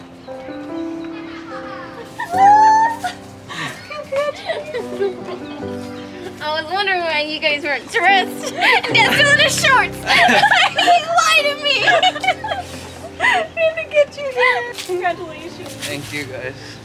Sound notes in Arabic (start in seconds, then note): 1.1 الجميع يضحكون; 8.4 تضحك; 12.0 الكل يضحك